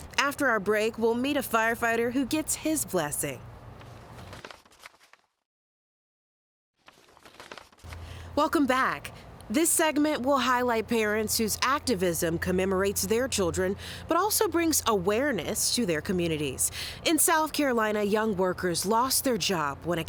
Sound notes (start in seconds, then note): 3.7 notes shuffling